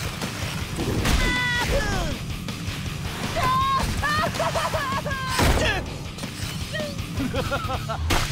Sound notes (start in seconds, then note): 0.4 grunting; 3.4 screaming; 6.8 laughing